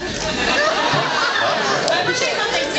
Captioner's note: laughs